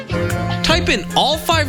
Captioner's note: bee flying